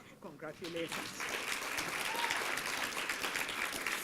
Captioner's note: applause